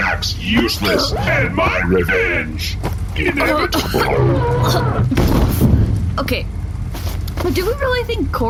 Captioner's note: gasping